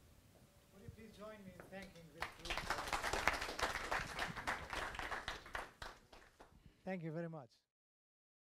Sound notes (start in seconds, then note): 2.2 audience applause